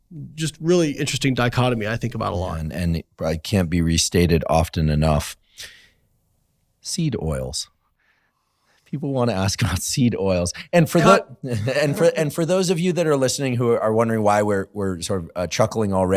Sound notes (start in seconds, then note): 11.4 chuckles